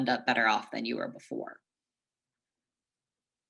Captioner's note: pause